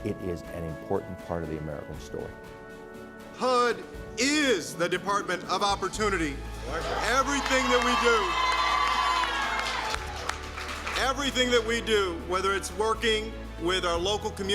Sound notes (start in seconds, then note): 6.4 cheers and applause